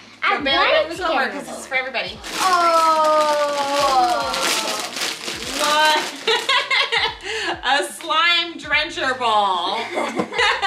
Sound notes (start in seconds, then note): 6.9 laughs